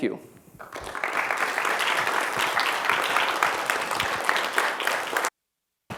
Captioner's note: applause